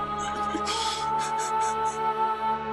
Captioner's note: sobbing